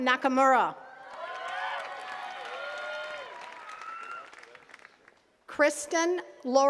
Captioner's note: attendees cheering and clapping